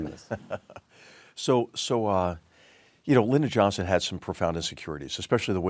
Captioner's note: laugh